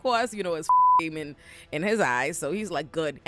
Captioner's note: beep